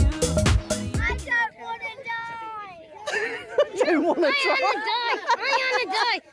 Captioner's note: children chanting 'I don't want to die'; laughing